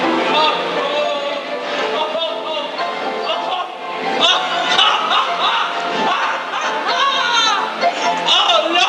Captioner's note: laughing